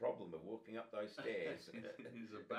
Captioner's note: both laughing